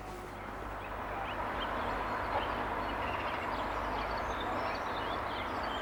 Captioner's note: birdsong, traffic